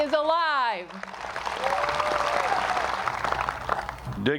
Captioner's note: applause